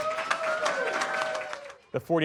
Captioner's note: cheering